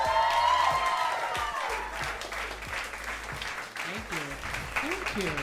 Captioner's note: audience cheers